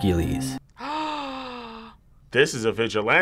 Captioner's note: gasps